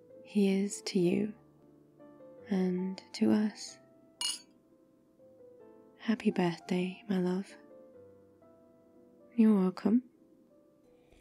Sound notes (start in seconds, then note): 4.2 glasses clink